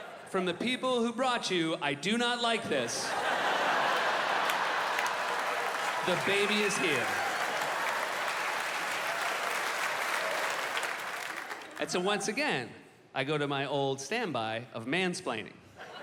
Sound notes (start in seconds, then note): 3.0 audience laughing; 7.9 audience cheering